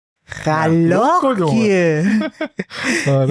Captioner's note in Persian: خنده